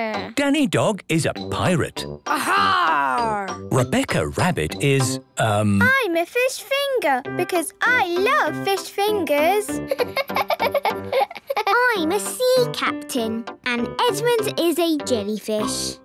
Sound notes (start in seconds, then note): 9.8 laughing